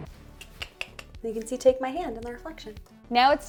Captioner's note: clicks tongue